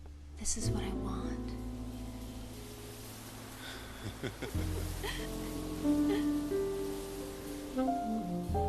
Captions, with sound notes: This is what I want. (CHAZ AND MADELAINE LAUGHING)